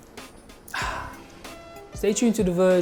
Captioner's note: soft music; exhale sound